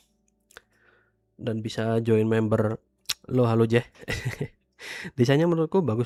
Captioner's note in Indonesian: tertawa